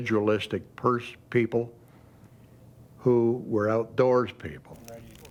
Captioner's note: voiceover